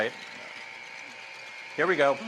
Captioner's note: mixer whirring